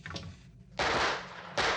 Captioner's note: gun firing